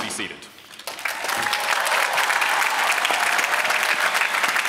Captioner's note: applause